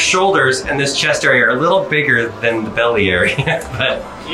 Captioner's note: laughs